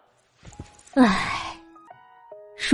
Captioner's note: sigh